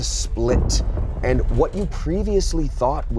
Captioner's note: thump rumbles